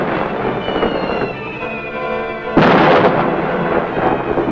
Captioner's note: bombs exploding